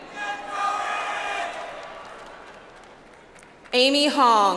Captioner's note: audience applauds